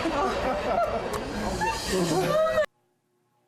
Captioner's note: laughs